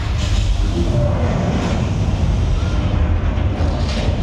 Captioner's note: fire whooshes